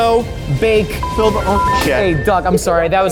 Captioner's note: line beeps